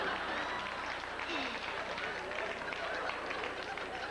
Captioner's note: controlled breaths